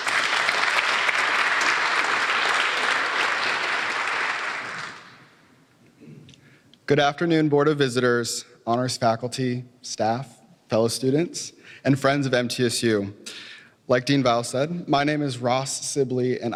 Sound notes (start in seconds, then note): 0.0 applause